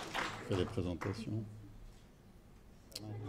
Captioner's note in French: applaudissements